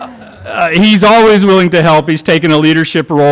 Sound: laughter

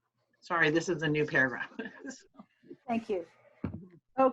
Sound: chuckles

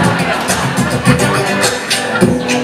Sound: laughter

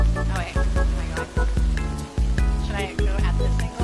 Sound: mumbles

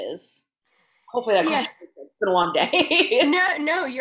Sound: faintly speaking

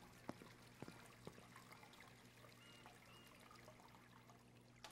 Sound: water splatters

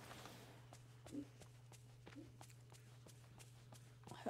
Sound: low Whispering

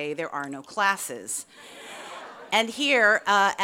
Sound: audience laughs

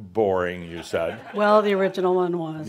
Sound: some chuckles

